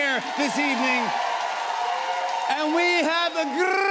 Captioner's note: cheers and applause